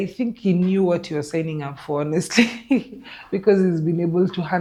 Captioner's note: laughs